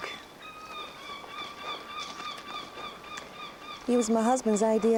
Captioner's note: gulls calling